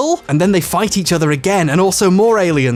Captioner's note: none